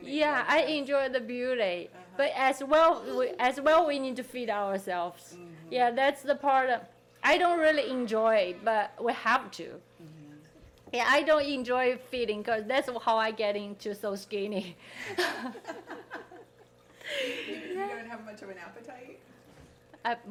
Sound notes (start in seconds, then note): 15.0 people laughing